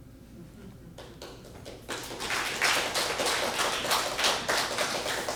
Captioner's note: applause